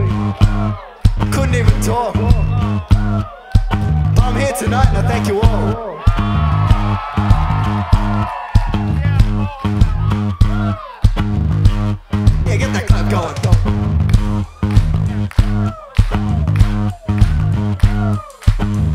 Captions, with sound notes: couldn't even talk. But, I'm here tonight and I thank you all. (audience cheers) Yeah, get that clap going